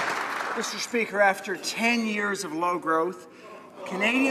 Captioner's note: applause